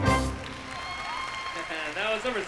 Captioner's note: applause